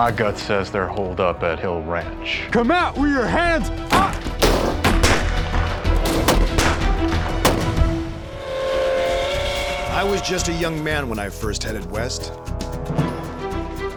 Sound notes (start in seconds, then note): 3.9 gunshots; 8.1 train whistle